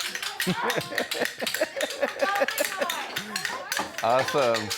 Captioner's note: many clappers reverberating; children chattering; laughing